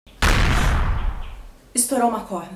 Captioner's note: explosion